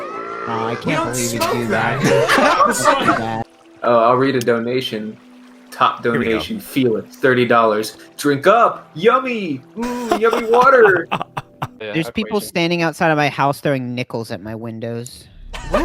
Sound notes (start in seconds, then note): 9.8 laughing quietly; 12.0 matter of factly